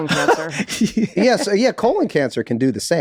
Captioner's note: Charlie laughs